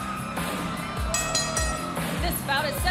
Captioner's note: bell